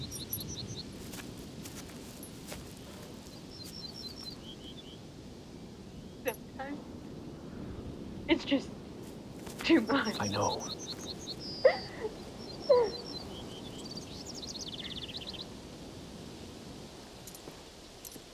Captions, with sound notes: - Sometimes, it's just too much. - I know. (Promise crying softly)